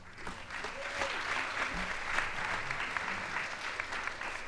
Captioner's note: audience applauds